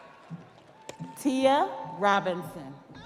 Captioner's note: audience applauding; audience cheering